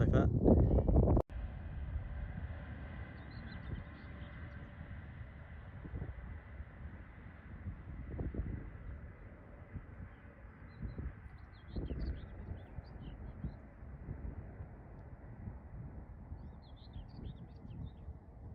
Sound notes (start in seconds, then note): 2.2 distant train noise